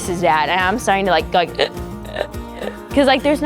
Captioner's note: stridors